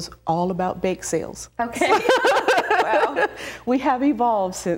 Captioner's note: laughs